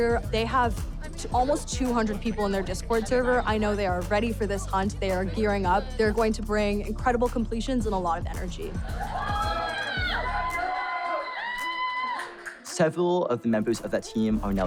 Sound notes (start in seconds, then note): 8.7 team cheers